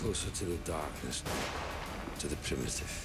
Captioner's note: gunshot